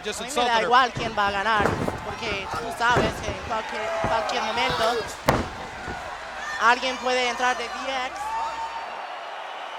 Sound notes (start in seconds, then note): 1.6 Chyna speaking Spanish